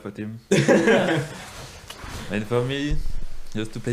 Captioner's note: all laughing